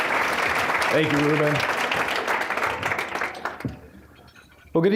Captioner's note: applause; applause